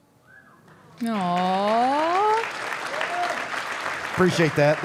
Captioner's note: audience applauding